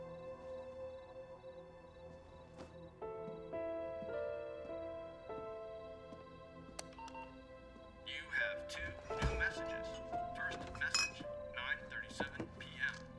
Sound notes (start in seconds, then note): 6.9 answering machine beeps; 8.4 male Electronic Voice